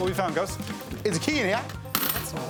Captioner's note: clattering